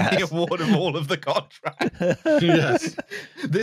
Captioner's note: laughing; laughter